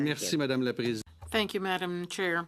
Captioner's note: speaking French